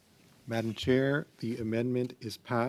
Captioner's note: speaking French